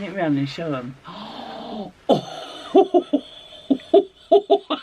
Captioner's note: gasps, giggles